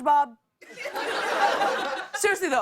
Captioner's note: laughter